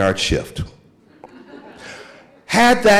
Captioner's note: audience laughing